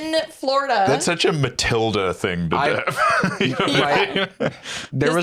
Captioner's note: laughs